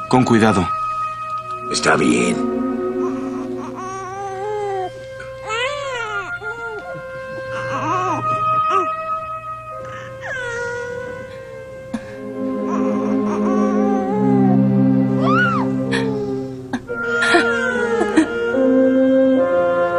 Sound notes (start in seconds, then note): 7.1 cooing continues